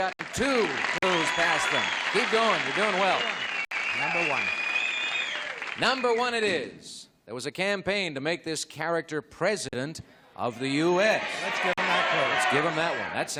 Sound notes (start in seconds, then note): 4.8 cheering and applause